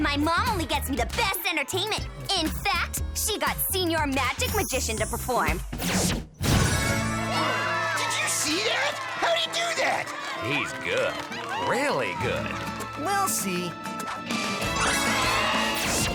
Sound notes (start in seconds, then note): 9.3 loud poof, guests cheer